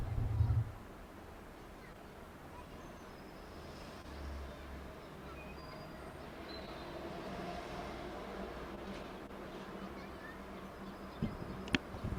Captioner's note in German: schnauben